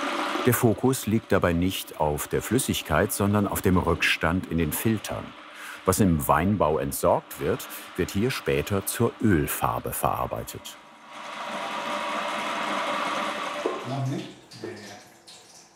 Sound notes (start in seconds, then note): 10.5 clatter